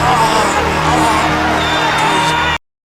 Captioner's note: cheers